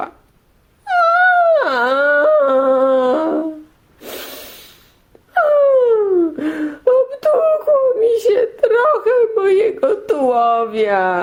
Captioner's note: crying sounds